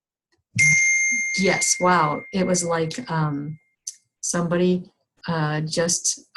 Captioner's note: phone dings